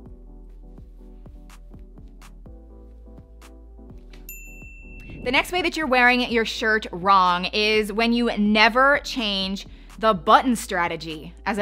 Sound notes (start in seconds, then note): 0.2 calming music; 4.2 bell softly chiming